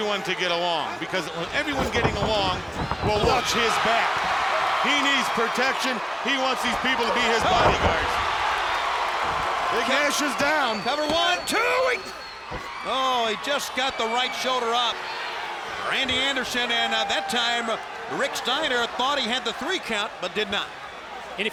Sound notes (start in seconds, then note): 4.1 crowd cheering; 8.9 crowd cheering